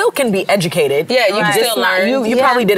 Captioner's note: overlapping chatter